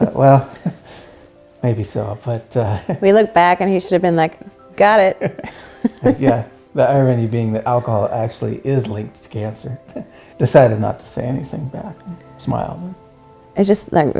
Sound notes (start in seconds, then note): 0.0 laughs; 5.1 both laugh